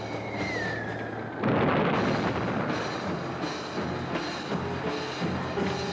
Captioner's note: shell whistling; explosion